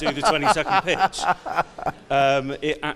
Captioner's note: audience laughs; laughs